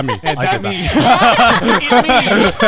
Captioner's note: all laughing